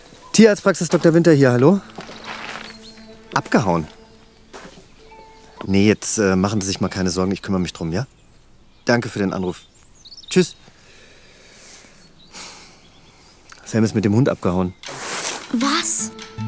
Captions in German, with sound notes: Tierarztpraxis Dr. Winter hier, hallo? Abgehauen? Nee, jetzt machen Sie sich mal keine Sorgen. Ich kümmer mich drum, ja? Danke für den Anruf. Tschüss. (Seufzen) Sam ist mit dem Hund abgehauen. Was?